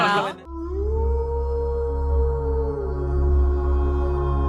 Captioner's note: werewolf howling